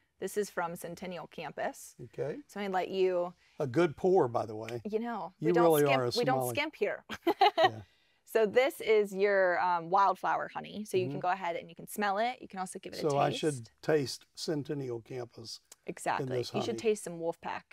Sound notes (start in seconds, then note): 7.3 laughs